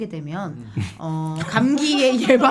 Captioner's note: chuckling